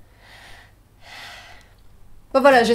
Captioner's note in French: Soupir de solitude désespérée